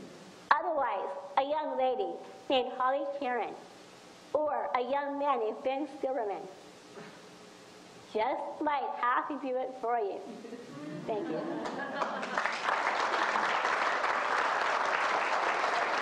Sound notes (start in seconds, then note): 10.8 audience laughs; 11.6 audience applauding